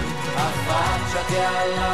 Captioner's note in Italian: Applauso